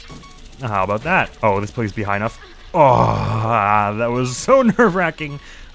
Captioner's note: sigh of relief